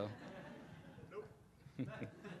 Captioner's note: laughing